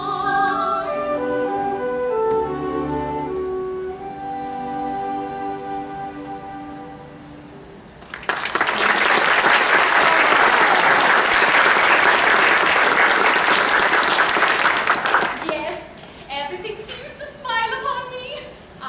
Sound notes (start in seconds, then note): 8.0 applause